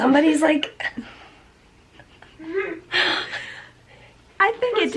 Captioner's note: laughter